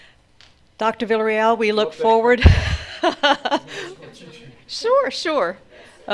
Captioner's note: laughs